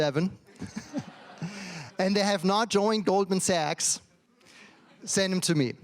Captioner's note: laughs